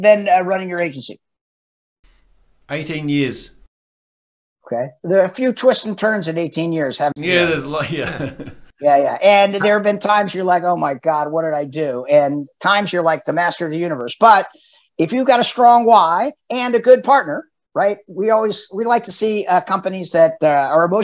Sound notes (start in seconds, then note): 7.2 laughs